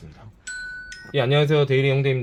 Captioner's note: ringing sound